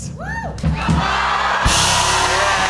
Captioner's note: cheers and applause